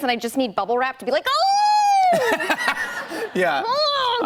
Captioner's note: laughter